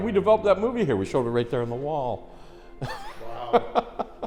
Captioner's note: chuckles